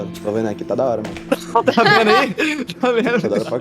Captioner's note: everyone laughs